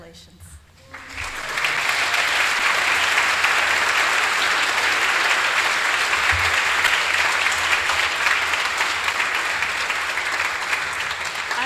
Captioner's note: applause